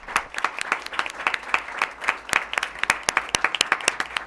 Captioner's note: applause